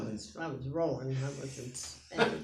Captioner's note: laughs